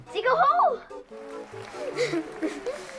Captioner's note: clapping; laughter